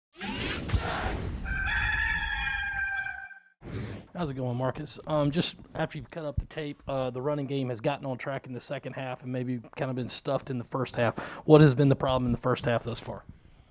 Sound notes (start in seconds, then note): 0.2 gears screech; 1.4 rooster Crows